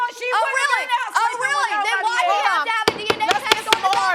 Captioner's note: gavel banging